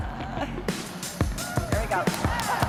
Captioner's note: laughter